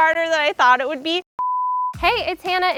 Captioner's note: screen beeps